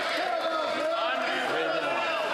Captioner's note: some Applause